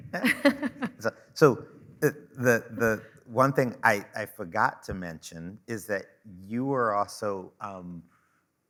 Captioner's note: chuckling